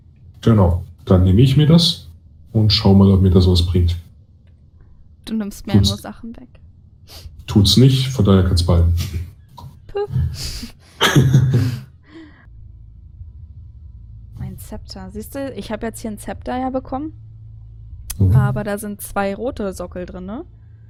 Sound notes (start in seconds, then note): 7.0 sniff